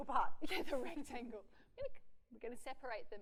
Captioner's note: laughs